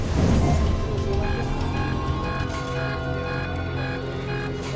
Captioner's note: alarm beeping